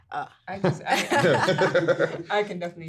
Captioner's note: everyone laughing